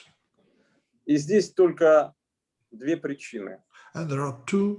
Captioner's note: speaking Russian language